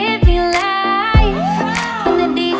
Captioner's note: students yelling